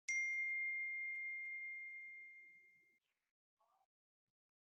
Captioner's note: meditation timer rings